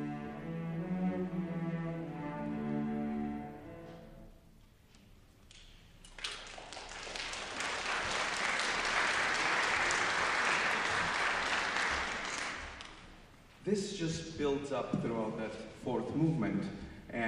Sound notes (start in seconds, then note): 6.0 applause